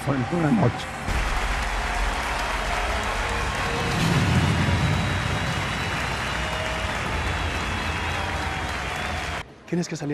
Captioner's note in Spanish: Aplausos y chiflidos